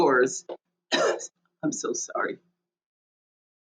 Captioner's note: coughs